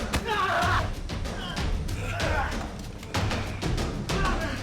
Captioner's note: punches thudding